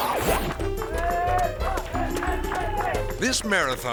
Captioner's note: people cheering